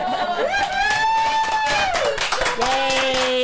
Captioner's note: crowd applauding & cheering